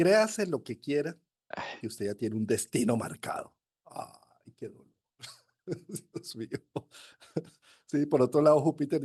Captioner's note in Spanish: risas